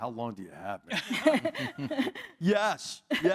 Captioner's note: laugh